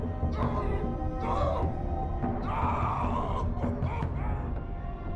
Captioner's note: yelling